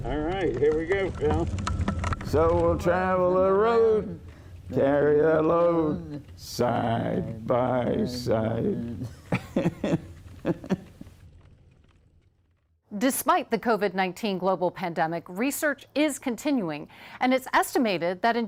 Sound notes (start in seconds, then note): 8.8 laughs